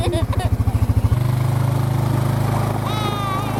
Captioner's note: ATV revs